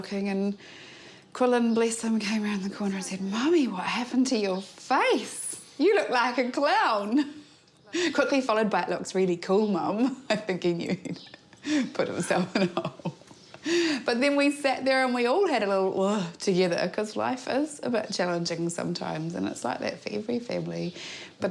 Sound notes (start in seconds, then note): 7.4 chuckles; 10.0 laughs; 15.8 imitates sobbing